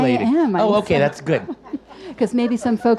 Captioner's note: audience laughs